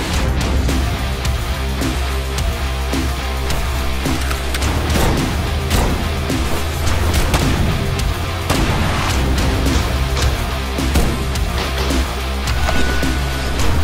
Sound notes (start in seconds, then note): 5.3 gunfire popping